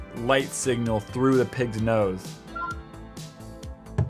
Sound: phone beeps

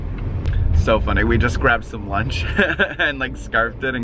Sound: laughs

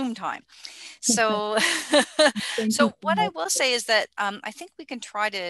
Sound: laughter

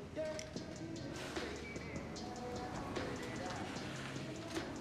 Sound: Jemma exhaling

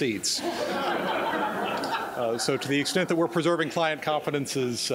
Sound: laughter

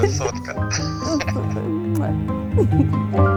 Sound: kiss

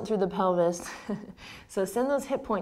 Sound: laughs

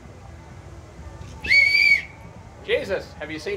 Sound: whistle shrills

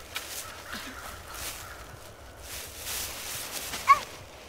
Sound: birds cawing

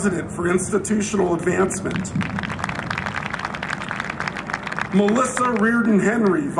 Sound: applause

